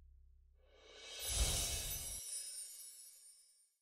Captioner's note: chimes ringing